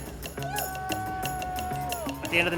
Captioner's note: people cheering